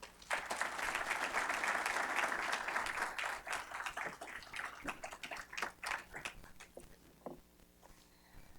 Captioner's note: applause